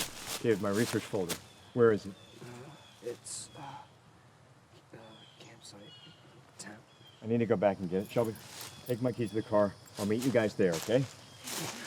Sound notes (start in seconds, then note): 2.4 groans